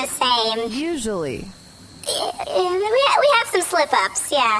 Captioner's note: stutters